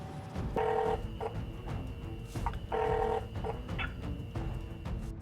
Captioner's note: phone ringing